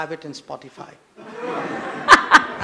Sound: laughter

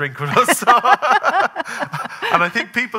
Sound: both laughing

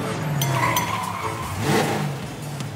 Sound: wheels squeaking; engine revving

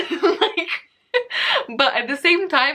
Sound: laughs

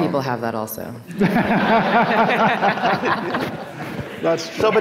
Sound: people laughing

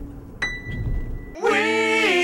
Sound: ding

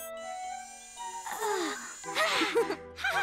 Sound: both chuckle; Hogi sighs; giggles

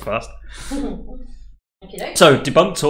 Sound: laughing

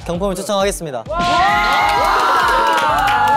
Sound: scream~~~

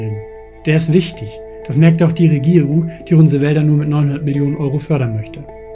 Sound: german

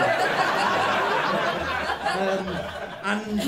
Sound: laughter

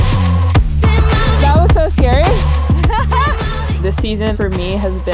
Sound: laughs

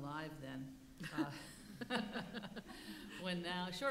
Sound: laughing

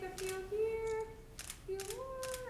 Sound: camera clicks

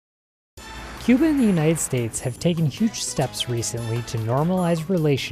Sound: speaks Spanish; all cheering; speaks Spanish

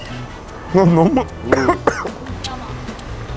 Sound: coughing

